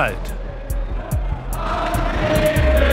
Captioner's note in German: Lautes Grölen